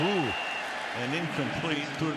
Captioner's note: whistle